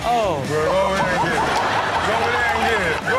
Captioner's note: audience laughs